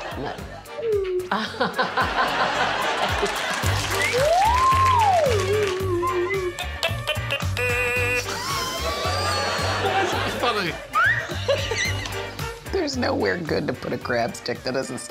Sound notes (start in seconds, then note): 1.3 audience laughing; 1.9 Victoria laughing; 1.9 swanee whistle warbling; 4.9 audience applauding; 7.8 stylophone warbling; 9.8 laughs; 11.6 Morgana laughing; 11.6 swanee whistle warbling